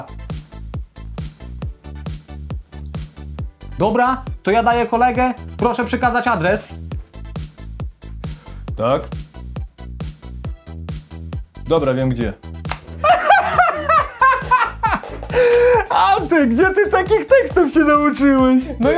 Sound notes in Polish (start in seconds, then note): 0.1 Skoczna Muzyka; 6.7 Skoczna Muzyka; 12.9 Śmiech Szwagrów